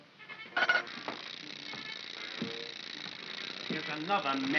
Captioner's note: chattering sound of gears; mechanical rattling sound